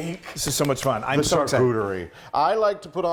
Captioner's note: he claps